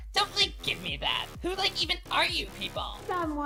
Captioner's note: none